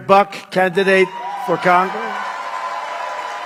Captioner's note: applause